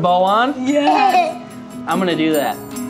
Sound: laughing

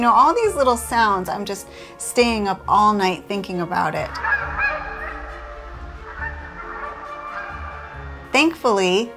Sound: geese honking

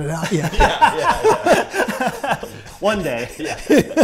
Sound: laughing

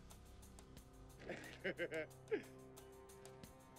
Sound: sighing; laughing; foreboding instrumental music

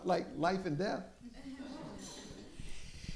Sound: laughter

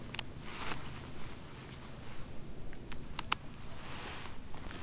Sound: buckles click

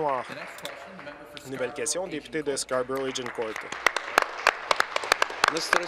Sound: applause

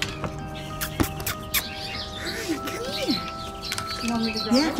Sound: kissing sounds

